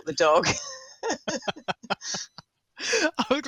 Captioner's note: laughter